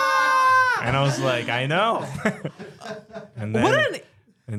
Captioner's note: shrieking